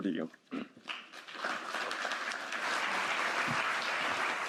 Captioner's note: applause